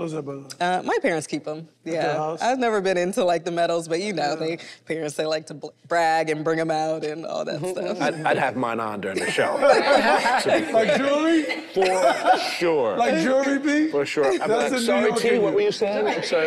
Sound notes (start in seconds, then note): 9.1 group laughs